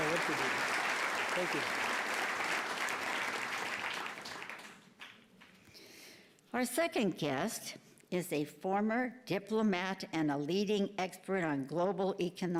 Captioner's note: applause